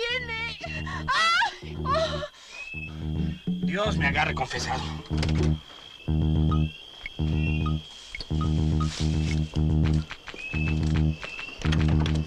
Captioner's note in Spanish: Gritos